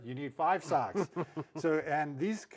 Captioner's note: chuckles